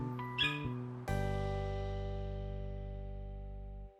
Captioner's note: Spike yaps